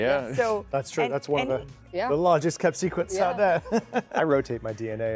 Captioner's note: chuckles